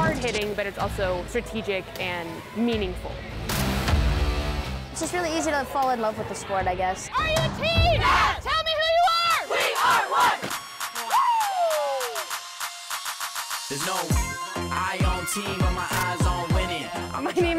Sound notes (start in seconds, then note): 10.9 cheering; 14.1 hip hop music